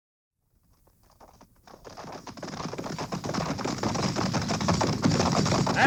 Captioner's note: horses galloping